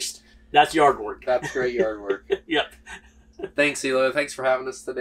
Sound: laughs

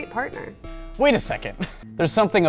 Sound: laughs

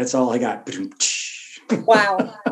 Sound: laughs

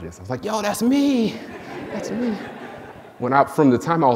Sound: audience laughing

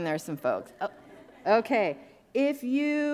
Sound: audience laughing

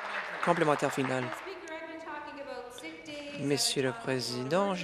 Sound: applause

